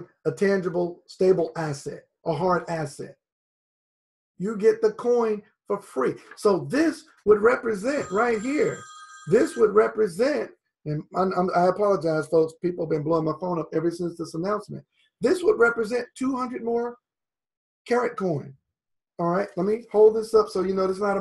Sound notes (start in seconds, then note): 10.8 phone rings